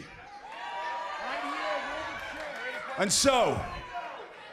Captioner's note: cheers and applause